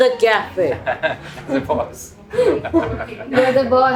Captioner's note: laugh